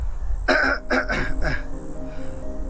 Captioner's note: clears throat